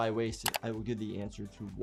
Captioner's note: keyboard keys clicking